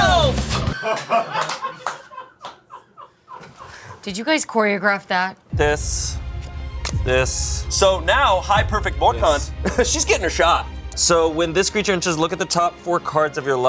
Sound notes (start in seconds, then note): 1.3 crew laughing